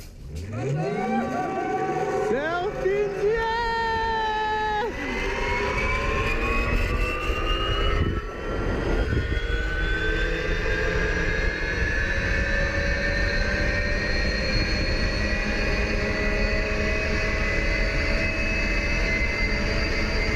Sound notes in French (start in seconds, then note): 0.6 cris d'excitation; 3.7 il crie